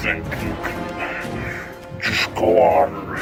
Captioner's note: heavy breathing